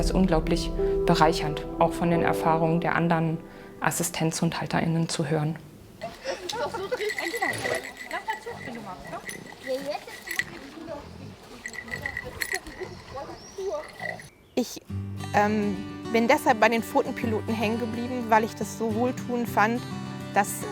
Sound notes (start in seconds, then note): 6.0 clinking of guide dogs' bells